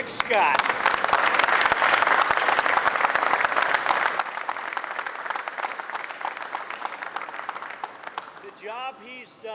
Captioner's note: applause